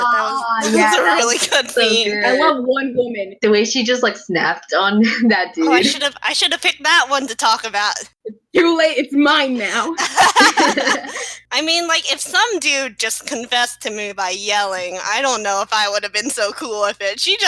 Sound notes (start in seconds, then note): 9.7 laughing